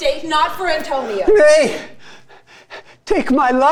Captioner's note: panting